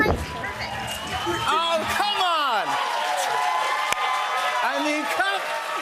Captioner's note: cheers and applause